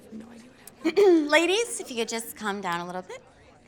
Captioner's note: clears throat